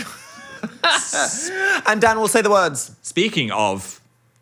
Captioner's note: laughs